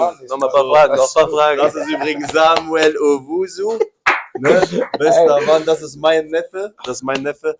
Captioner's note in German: gelächter